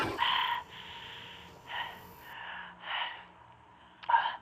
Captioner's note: panting